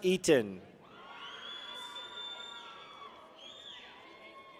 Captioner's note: people cheer